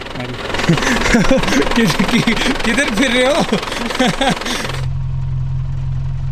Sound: laugh

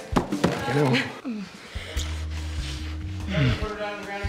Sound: both moaning

